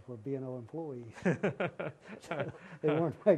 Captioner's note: laughter